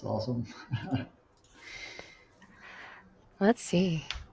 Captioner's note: laughs